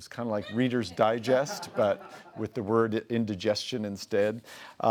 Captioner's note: laughing